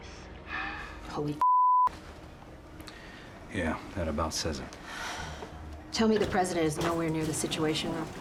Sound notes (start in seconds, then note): 4.8 sighs